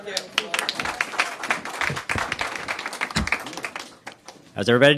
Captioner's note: applause